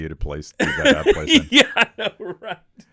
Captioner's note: laughing